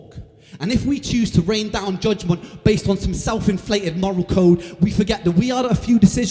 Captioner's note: none